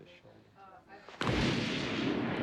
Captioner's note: thunder